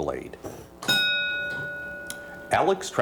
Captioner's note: bell dings